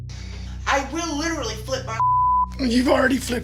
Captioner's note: beep